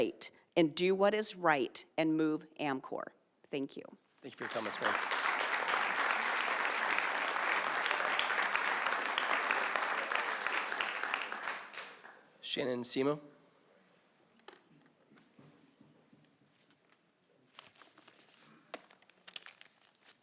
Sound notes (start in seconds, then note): 7.6 applause